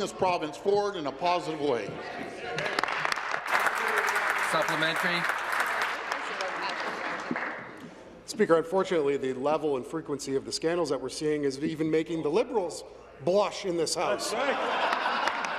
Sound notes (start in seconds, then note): 5.3 applause